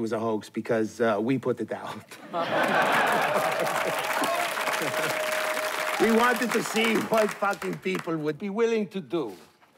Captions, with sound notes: a hoax, because we put it out. [LAUGHTER AND APPLAUSE] We wanted to see what fucking people would be willing to do.